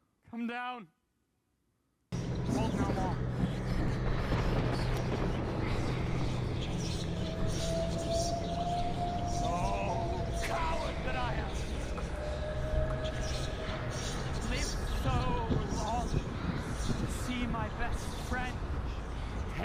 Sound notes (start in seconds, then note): 2.2 thunder cracking; 7.1 ominous flute melody